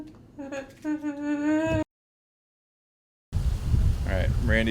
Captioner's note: sollozando